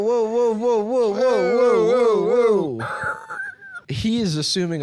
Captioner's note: screeches